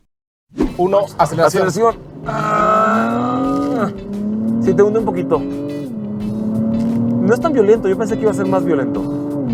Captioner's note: engine reving